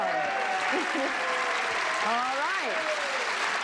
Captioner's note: cheers and applause